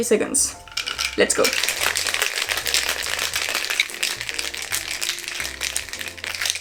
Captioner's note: shake cocktail